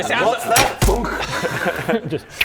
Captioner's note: thunk!